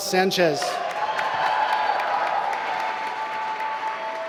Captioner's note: applause